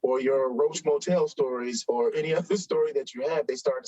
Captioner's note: chuckles